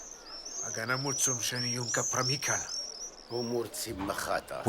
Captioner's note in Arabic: الصوت المنطوق البدوي